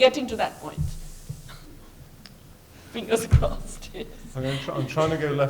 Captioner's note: laughs